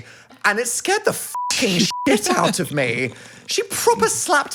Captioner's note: beep